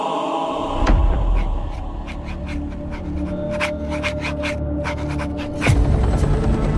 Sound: chorus sings; suspenseful music plays; Sensometer scraping; helicopter flying

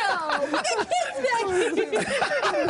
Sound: laughter

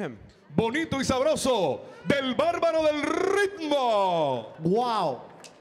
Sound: MC speaking in Spanish

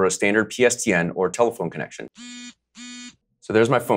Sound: phone buzzing

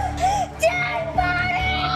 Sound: gasps

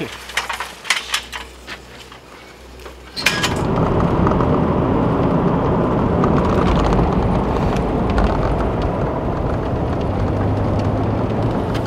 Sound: road noise

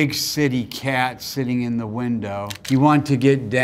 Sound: camera shutter clicking

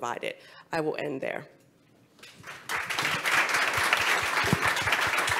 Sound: audience and panel applaud

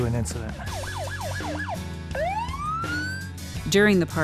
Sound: sirens

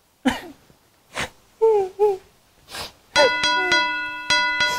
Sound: crying

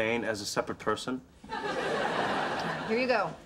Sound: audience laughter

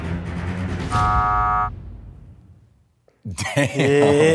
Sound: buzzer sounds

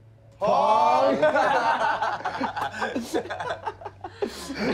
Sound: laughing

